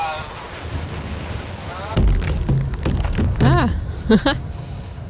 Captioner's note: banging on window